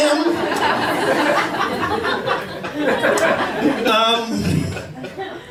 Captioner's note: laughter